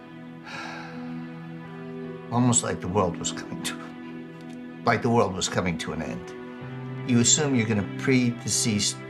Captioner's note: sigh